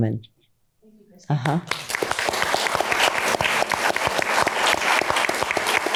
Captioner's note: applause